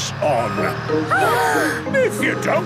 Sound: children gasp

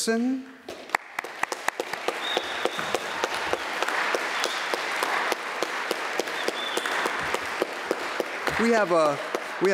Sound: applause

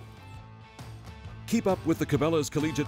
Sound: voiceover

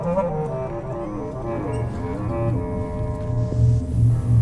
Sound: people in the distance, door opening

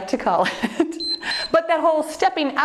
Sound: timer beeps

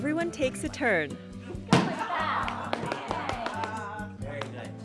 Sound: clapping

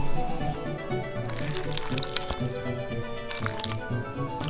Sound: squelching noises

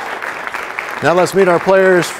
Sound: applause

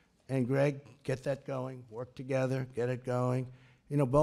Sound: none

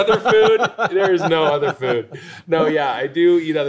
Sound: laughs

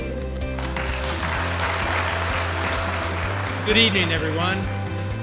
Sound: applause

